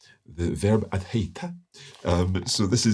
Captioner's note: speaks Icelandic